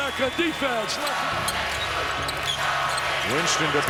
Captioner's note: crowd cheering